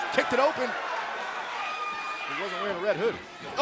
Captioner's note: crowd cheering